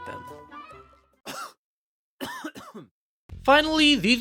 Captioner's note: cough